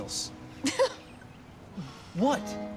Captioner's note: stella laughs